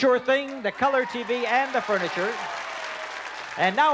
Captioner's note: applause